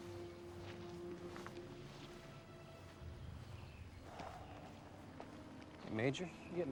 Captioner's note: footstep